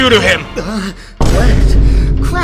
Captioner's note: gasp